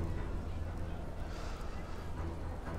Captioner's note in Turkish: Nefes veriyor